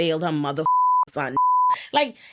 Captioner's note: beep